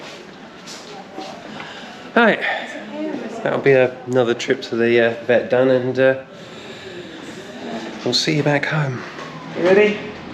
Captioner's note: sigh